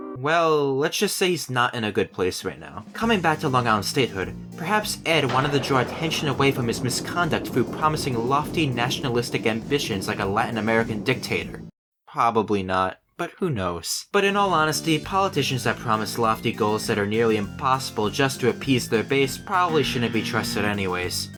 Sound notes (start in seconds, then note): 5.0 thunder